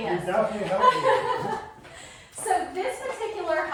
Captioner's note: giggles